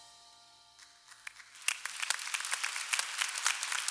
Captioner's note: clapping